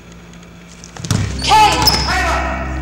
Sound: thudding

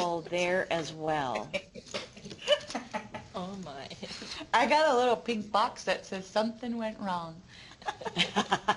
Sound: laughing

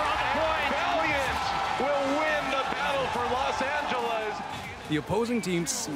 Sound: cheers and Applause

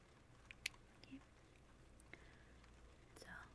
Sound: clink and rain sounds

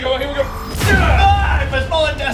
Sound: screams

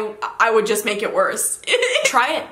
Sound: laughs

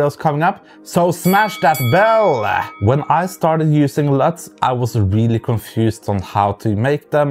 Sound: bell ringing

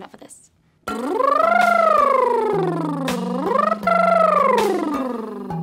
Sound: lip trilling

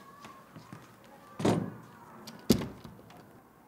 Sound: sound of door closing

